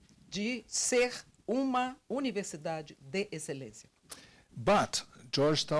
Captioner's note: translator speaking Portuguese